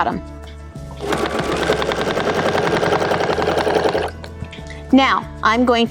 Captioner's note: machine whirring